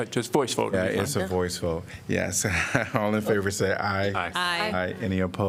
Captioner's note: laughter